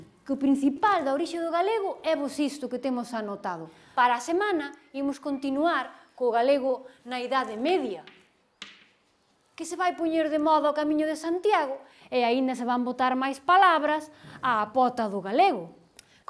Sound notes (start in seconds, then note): 8.0 sound: chalk on blackboard